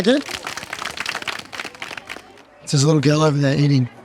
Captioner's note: people applauding